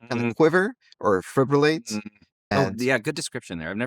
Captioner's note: hums